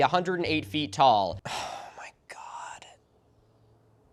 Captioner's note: whispering